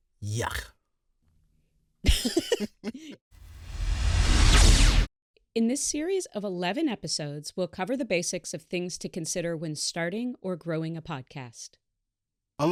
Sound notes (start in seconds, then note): 2.1 laugh; 3.4 electronic whoosh